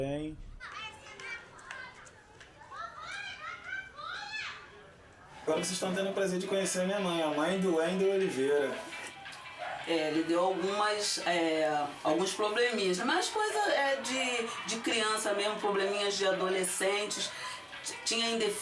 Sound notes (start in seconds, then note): 5.7 speaking Portuguese